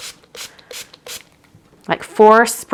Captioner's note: liquid spritzing